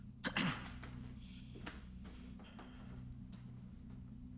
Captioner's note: throat clearing